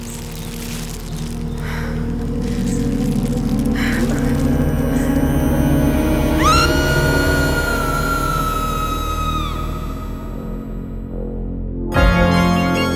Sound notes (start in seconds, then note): 0.1 dramatic music; 6.4 Susanna screaming; 10.0 dramatic music